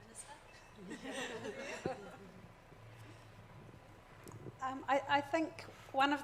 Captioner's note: audience laughs